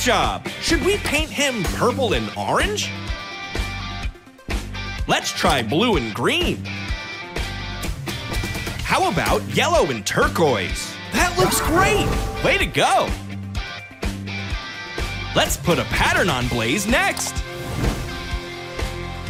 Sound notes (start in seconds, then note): none